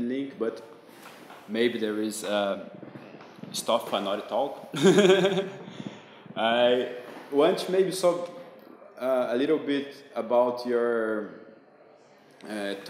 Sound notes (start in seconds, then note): 4.7 doubtful laughter